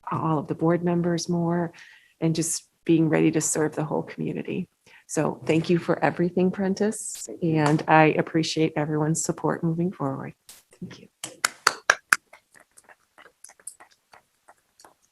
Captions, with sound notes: all of the board members more and just being ready to serve the whole community. So thank you for everything Prentiss and I appreciate everyone's support moving forward, thank you. (clapping)